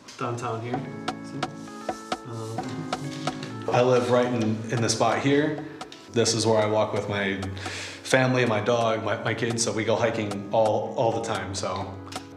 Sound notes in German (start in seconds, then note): 3.9 englisch